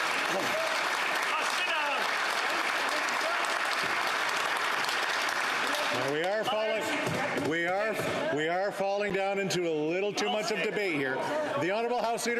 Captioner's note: some Applause